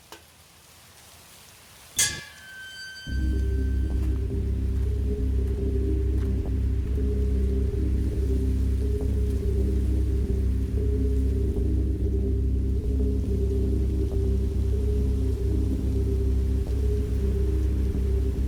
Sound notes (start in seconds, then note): 2.0 gate squeaks; 2.5 suspenseful music